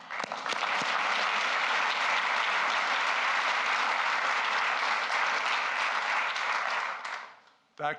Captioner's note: applause